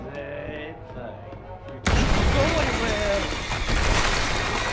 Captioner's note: wall shatters